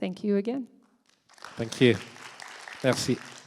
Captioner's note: applause